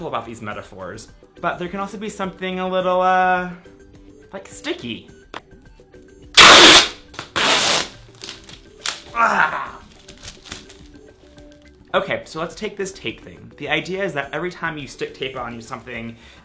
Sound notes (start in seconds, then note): 6.3 tape rips; 9.2 grunts